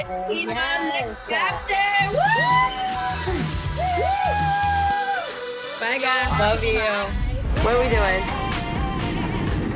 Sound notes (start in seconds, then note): 1.5 all cheering